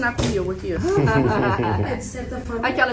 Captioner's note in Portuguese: risos